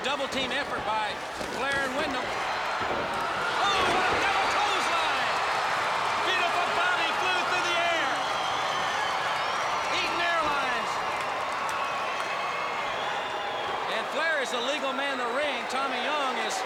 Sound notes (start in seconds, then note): 5.7 crowd cheering